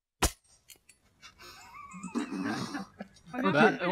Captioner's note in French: Bruit du coup d'épée; Rires